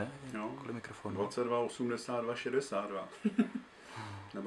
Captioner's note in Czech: smích